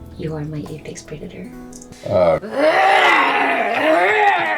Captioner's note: Giuliana growls